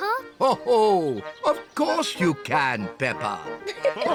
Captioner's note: chuckles